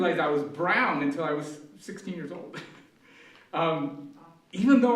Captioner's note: laughs